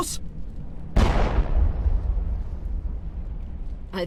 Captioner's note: bang